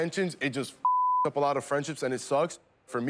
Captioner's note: beep